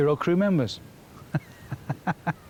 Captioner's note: chuckles